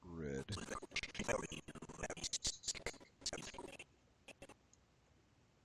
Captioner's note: audio skipping